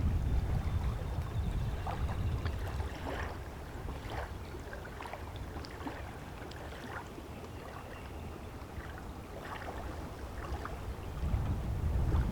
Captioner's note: water lapping and dripping, bird calls, insects buzzing